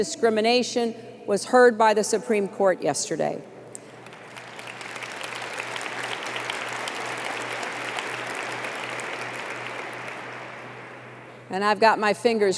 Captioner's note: applause